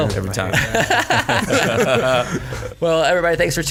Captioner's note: all laughing